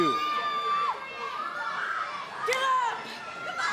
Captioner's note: cheers & applause